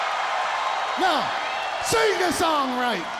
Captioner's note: crowd cheering